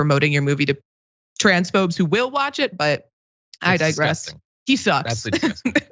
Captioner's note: laugh